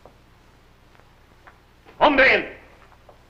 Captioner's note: foreign language